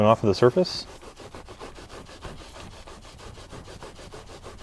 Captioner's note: scrubbing